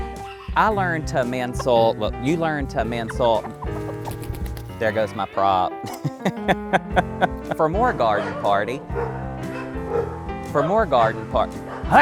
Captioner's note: dogs barking